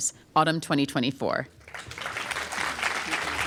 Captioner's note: applause